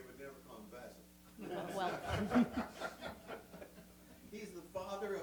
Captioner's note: laughs